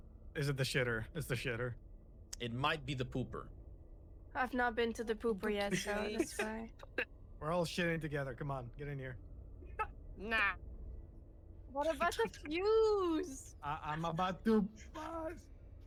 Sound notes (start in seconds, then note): 5.6 laughs; 9.6 laughs